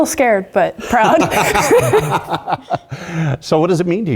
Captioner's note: laugh